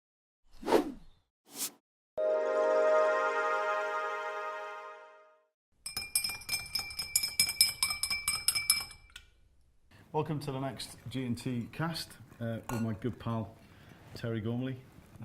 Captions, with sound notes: (calming music) (glasses clinking) - Welcome to the next G&T cast with my good pal Terry Gormley.